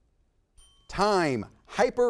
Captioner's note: bell dings